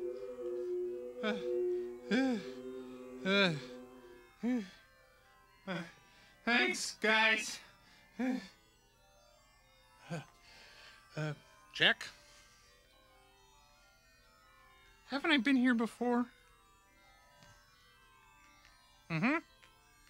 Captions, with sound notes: (Muppet sighing) (groans) Thanks, guys. Check. Haven't I been here before? Mm-hmm.